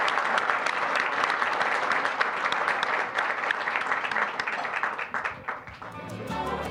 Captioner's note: applause, cheering; applause; bright, upbeat music